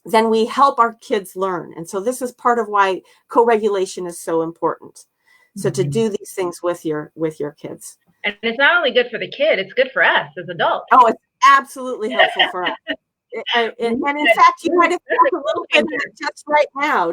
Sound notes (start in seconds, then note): 12.0 laughter